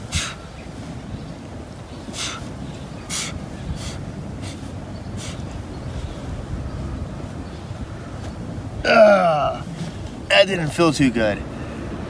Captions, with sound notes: (exhaling sharply) (grunts) - That didn't feel too good.